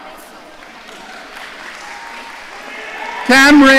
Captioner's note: audience applauding